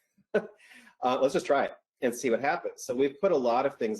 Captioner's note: laughs